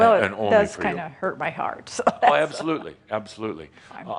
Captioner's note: she chuckles a little